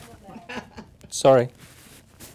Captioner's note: laughs